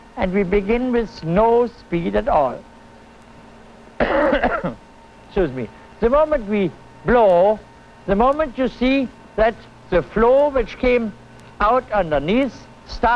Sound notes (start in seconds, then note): 4.0 coughs